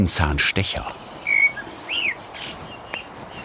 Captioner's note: birds chirping